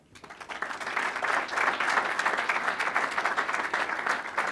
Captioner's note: applause